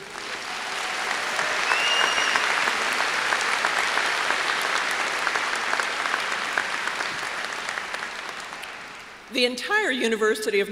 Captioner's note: applause